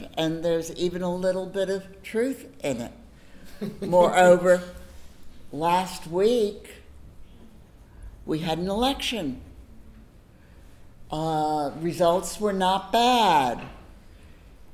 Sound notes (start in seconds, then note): 3.5 laughs